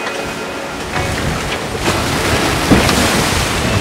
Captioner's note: waves crash